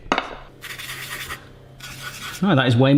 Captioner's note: scratching